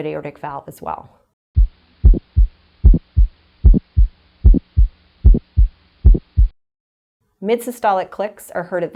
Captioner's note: heart beating